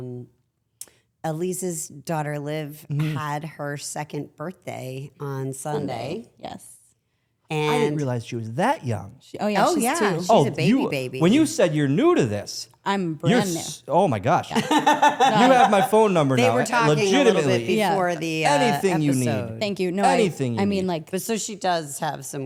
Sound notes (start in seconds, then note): 6.2 Stephanie laughs; 14.5 all laughing